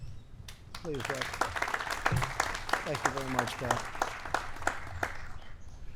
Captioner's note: applause